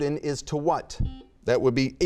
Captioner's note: buzzer beeping